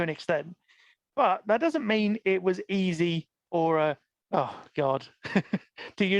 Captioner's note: laughs